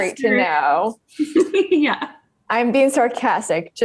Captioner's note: laughing